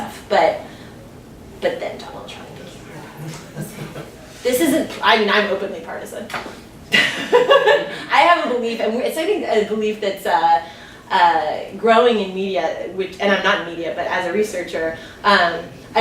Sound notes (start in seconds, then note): 7.0 laughs